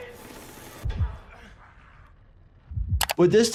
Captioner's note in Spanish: corazón latiendo